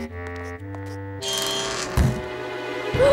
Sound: door creaking; gasping

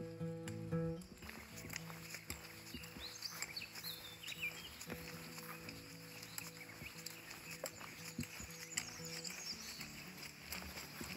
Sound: birds chirping

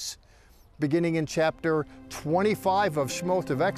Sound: speaking in Hebrew

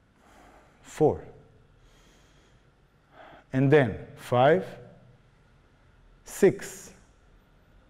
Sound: breathing slowly

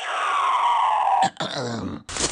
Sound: grunt

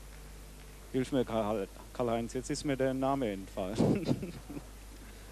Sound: chuckles

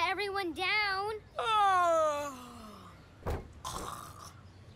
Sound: fake yawning

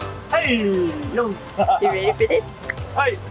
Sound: laughs

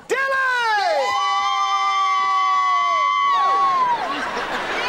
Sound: cheering

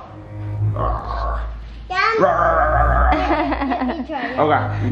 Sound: roaring

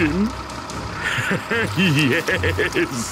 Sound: laughing maniacally

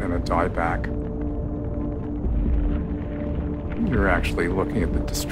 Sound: fire crackling

